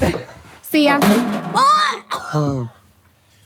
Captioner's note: object clangs